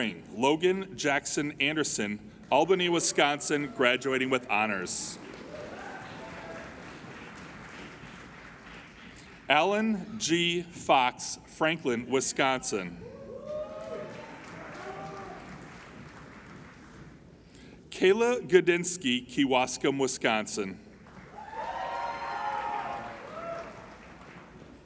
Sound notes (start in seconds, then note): 5.1 applauding; 13.1 applauding and cheering; 21.0 applauding and cheering